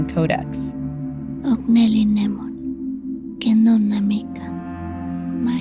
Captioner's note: Speaking Nahuatl